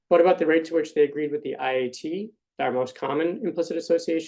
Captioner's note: none